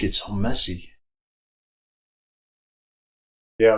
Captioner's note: silence